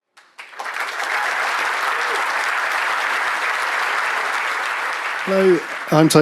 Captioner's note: applause